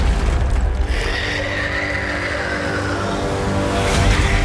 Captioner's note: ferocious screeching